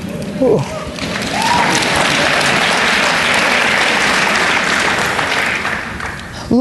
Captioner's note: applause